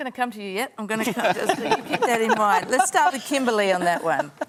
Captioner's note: laughter